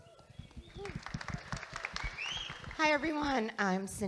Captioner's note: audience applauding